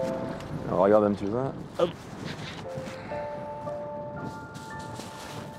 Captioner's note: speaking in foreign language